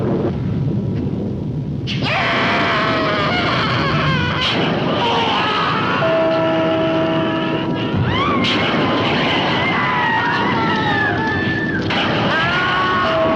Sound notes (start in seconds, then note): 2.0 witches screams of agony; 7.9 Witches screaming